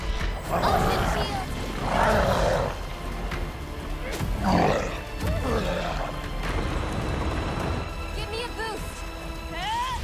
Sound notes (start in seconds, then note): 0.4 growls; 4.1 snarls